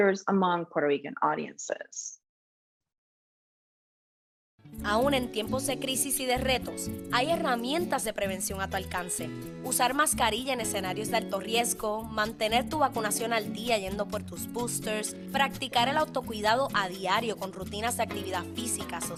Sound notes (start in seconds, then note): 2.8 foreign